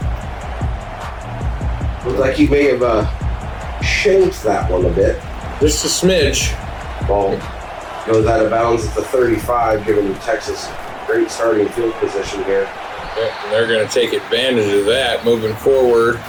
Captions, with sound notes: [Crowd Noises] Looks like he may have shaped that one a bit. Just a smidge. [Crowd Noises] Ball. [Crowd Noises] No doubt about the 35 given the Texas great starting field position here. [Crowd Noises] They're gonna take advantage of that moving forward.